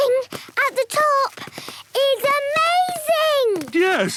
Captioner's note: none